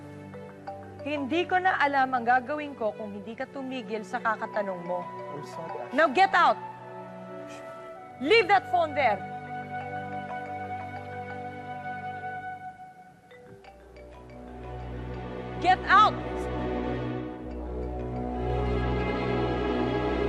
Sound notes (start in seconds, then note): 9.7 cellphone continues ringing; 17.1 unsettling music playing